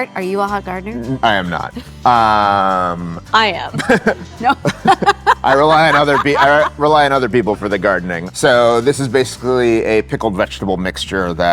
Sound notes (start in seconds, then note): 3.7 chuckles; 3.7 both laughing